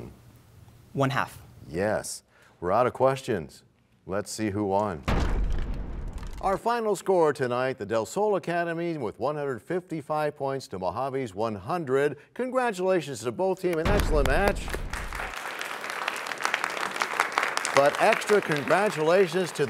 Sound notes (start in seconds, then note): 6.7 crashing sound; 16.6 applause